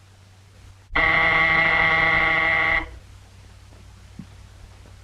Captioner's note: buzzer rings